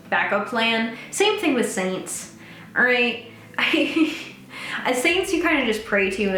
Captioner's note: laughs